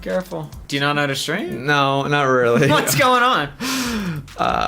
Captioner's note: laughs